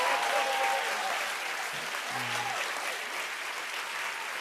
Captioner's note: cheers and applause